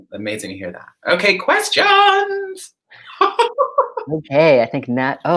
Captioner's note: laughs